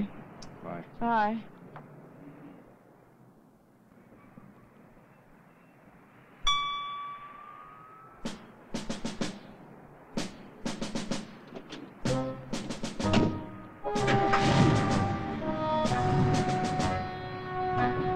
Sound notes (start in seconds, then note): 6.4 lightly chimes; 8.3 upbeat snare drums; 11.3 truck engine rustling; 12.0 whimsical orchestral music